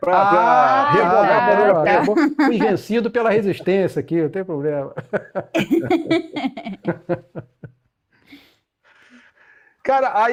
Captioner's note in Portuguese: risadas